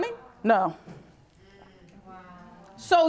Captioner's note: audience muttering